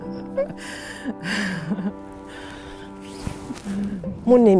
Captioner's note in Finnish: huojentunutta naureskelua